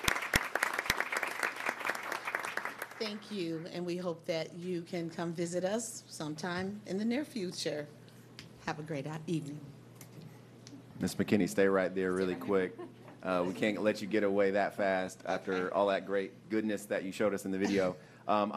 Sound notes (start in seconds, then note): 0.0 applause